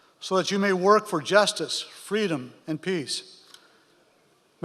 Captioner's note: none